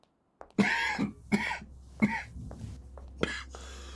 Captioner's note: David coughing; slow dramatic music